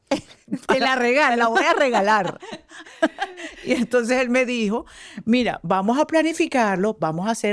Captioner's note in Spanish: risas